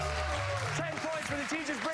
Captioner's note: cheers and applause